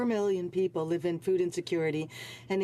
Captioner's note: speaking French